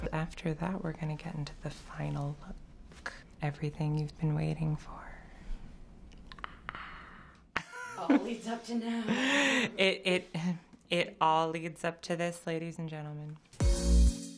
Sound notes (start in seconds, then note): 6.1 silently screams; 7.6 laughs